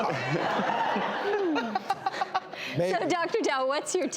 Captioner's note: audience laughs